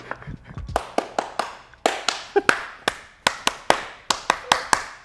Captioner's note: clapping